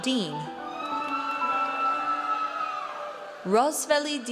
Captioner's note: audience cheers